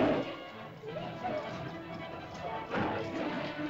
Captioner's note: dinosaur snarls; suspenseful music; terrified chatter; suspenseful music; dinosaur snarls